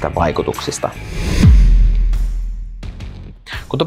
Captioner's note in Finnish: siirtymä-äänitehoste